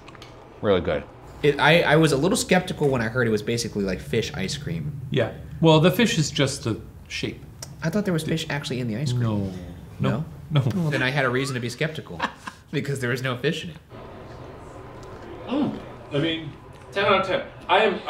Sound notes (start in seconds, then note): 12.4 laughing